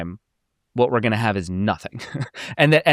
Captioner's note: chuckles